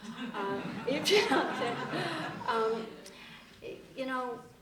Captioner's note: laughter